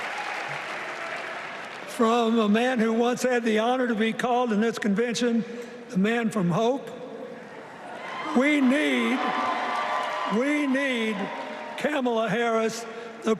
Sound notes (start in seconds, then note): 7.7 cheers and applause